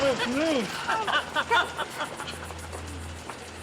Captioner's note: laughing